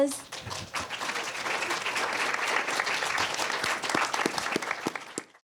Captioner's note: applause